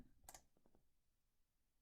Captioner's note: click